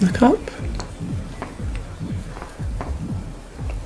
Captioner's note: water splashing